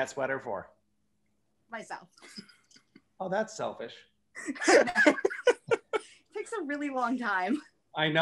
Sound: laughter

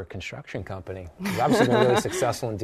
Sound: laughs

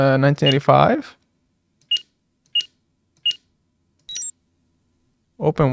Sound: electronic beeping

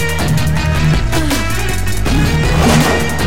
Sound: sighs

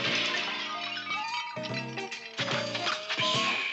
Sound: none

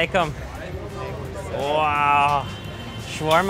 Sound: speaking in foreign language

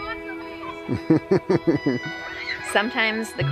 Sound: laughs

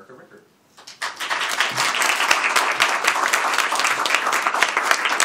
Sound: applause

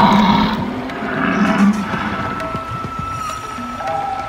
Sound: low roaring; wilderness sounds

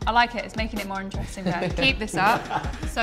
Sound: chuckle

